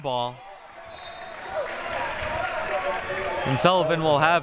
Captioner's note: whistle blowing